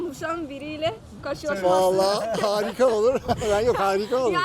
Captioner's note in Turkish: kahkaha